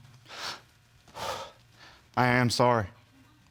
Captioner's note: strangled sigh